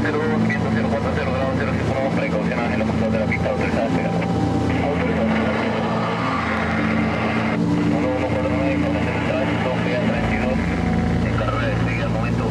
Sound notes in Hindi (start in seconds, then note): 1.9 रेडियो स्पेनिश बोल रहा है